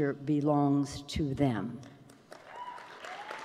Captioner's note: applause